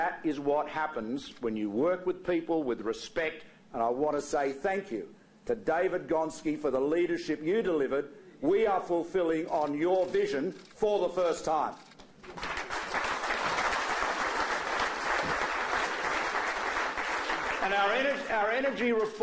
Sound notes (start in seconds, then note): 12.2 applause